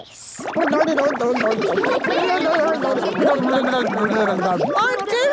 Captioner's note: children laughing